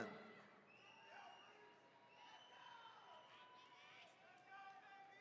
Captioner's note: attendees cheering